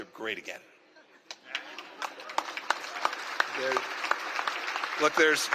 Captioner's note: laughter and applause